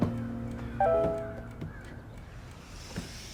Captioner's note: phone notification beep